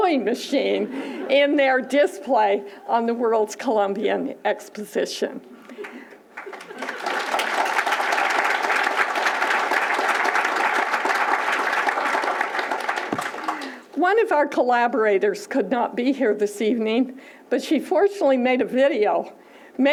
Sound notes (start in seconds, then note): 5.8 applause